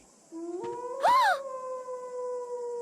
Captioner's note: Courtney Gasp